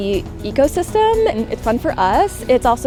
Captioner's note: water trickles